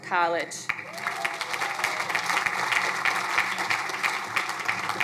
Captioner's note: crowd applauding